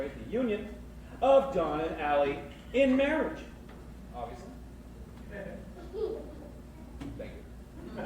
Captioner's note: kid laughs